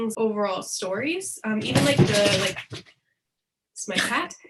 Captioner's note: banging noise in background